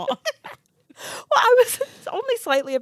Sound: group laughs

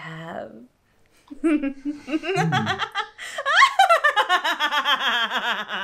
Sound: laughing

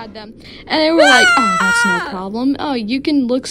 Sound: screaming

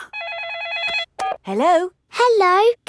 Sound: phone rings

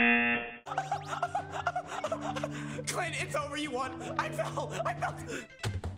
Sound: buzzer rings; laughs

